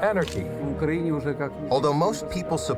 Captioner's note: speaking foreign language